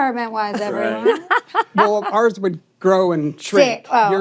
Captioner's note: laughs